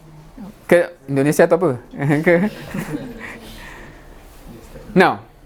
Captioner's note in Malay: ketawa